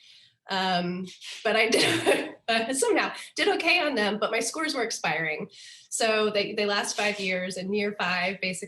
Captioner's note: laughter